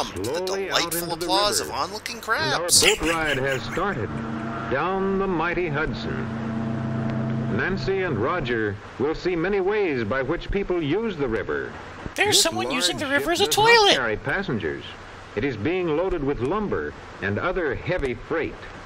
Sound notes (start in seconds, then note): 2.4 laughs; 12.3 kid voice